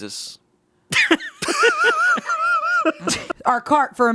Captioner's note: laughing